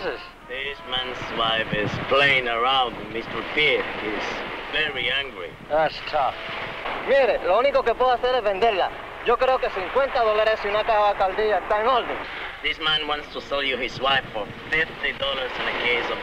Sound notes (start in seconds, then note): 6.4 man speaking in Spanish